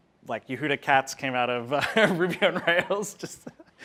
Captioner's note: laughs